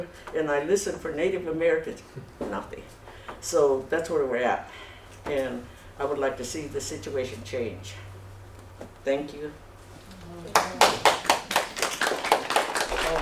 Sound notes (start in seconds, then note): 10.5 applause